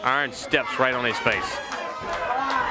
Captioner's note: crowd chatter